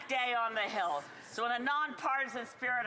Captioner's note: speaking French